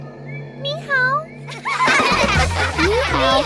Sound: laughing

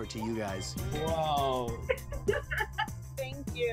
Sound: laughing

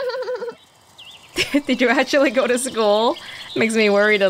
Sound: chuckles

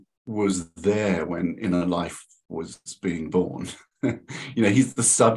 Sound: chuckles

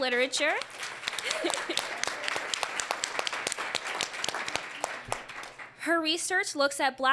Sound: applause

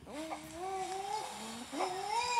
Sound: pant-hoot

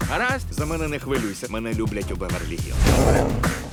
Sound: growling

